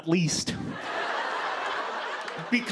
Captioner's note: laughter